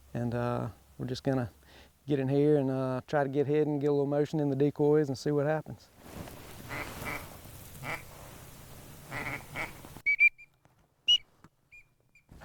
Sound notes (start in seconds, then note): 6.9 ducks quacking